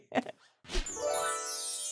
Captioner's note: chuckles; whimsical music